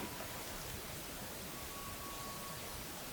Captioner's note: bull bugling